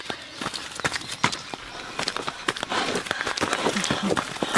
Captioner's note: gravel crunching